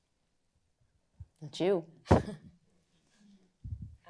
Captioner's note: chuckles